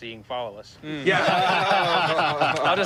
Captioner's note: laughter